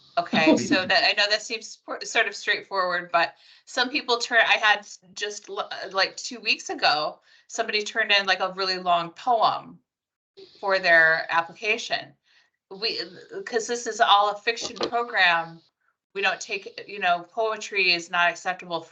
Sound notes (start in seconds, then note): 0.3 laughing